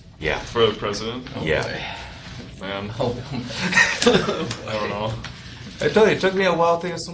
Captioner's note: chuckles